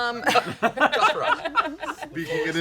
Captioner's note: laughs